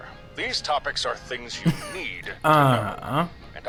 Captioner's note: laughs